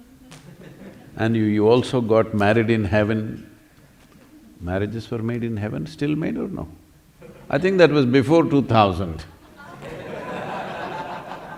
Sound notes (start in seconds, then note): 6.8 laughter